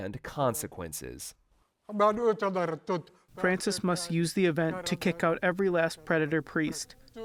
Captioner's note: through translator